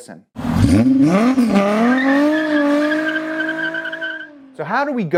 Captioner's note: car engine roaring